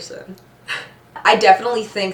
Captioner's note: chuckles